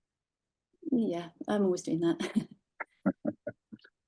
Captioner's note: laughing